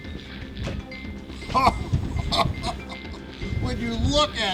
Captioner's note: laughs